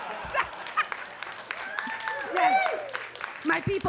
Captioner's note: audience laughs; audience claps